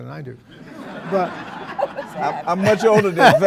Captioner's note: audience laughing